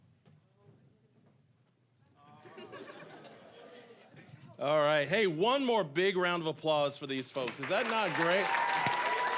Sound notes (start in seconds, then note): 2.4 audience laughing; 9.2 cheering, applause